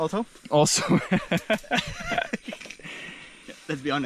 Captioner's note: laughs